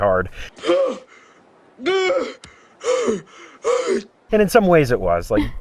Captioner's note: heavy breathing